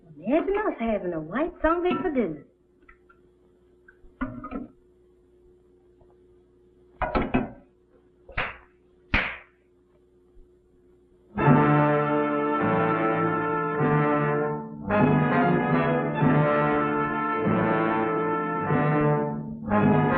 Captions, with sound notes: The old woman said we have a white zombie for dinner. [ CLAPPING ] [ OMINOUS MUSIC ]